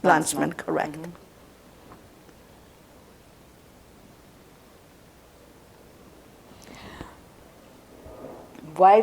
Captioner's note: pauses 6 seconds